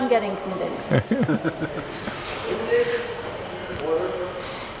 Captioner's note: quiet laughter